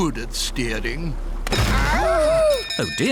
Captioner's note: clattering; bell ringing